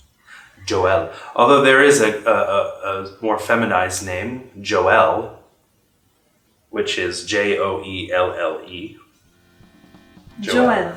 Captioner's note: laughs